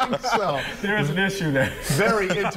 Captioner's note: laughter